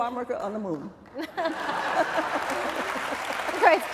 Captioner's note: laughter and applause